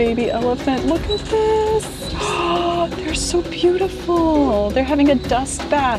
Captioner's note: gasping